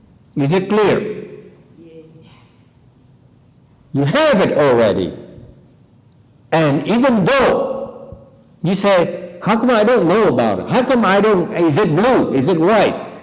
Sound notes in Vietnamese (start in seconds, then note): none